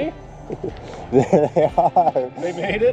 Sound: laughs

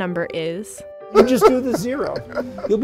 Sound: laughing

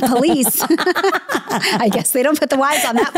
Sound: laughs

